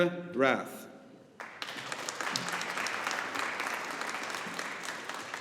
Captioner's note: audience applauding